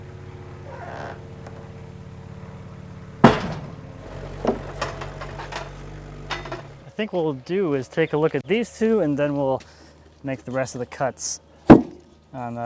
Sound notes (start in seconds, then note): 3.2 wood slamming down on log